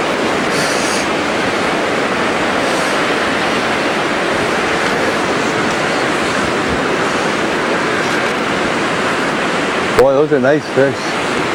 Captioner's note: water splashing